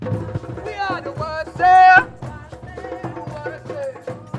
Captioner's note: crowd